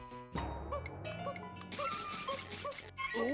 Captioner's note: cuckooing